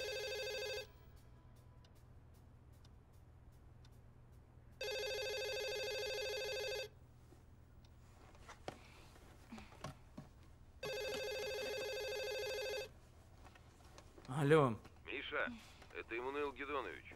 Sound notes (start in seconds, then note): 4.7 phone ringing